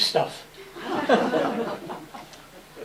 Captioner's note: laughter